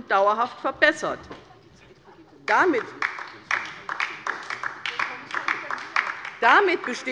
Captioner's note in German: Beifall bei der LINKEN - Vizepräsident Dr. Ulrich Wilken übernimmt den Vorsitz